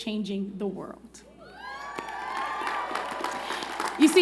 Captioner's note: cheers and Applause